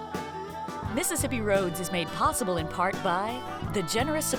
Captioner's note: voiceover